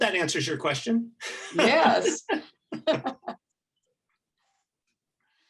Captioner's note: both chuckling